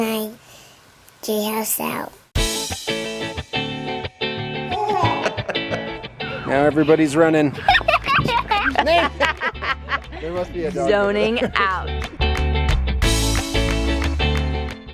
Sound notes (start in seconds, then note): 2.4 upbeat music; 4.7 laughs; 7.6 laughing; 12.1 upbeat music